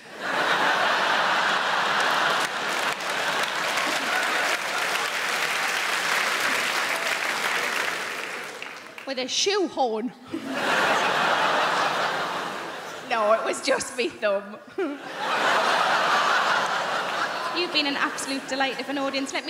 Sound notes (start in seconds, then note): 0.0 crowd laughing; 0.5 crowd clapping; 10.3 crowd laughing